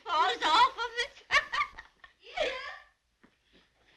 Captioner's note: laughing